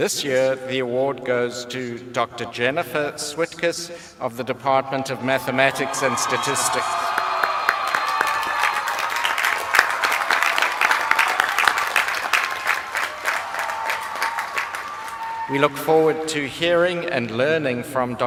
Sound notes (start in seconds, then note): 8.1 applause